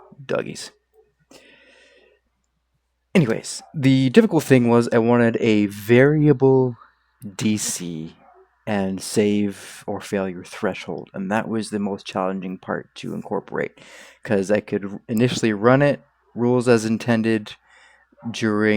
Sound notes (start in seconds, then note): 1.3 inhales all of the oxygen